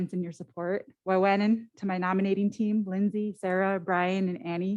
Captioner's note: foreign language